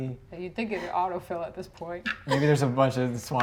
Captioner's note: laughs